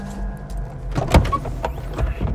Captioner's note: trunk unlatching; tense music